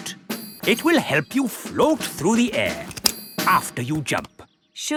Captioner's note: clicking